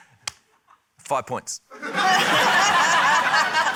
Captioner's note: laughter